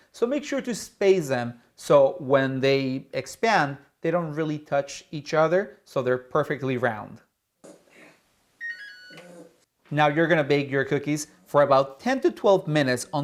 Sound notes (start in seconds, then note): 8.6 oven beeping